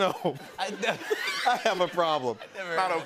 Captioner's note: laughter